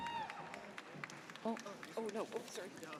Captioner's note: audience cheers